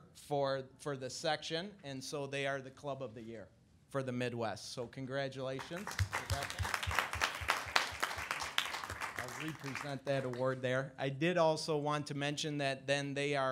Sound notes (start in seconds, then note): 5.6 audience applauding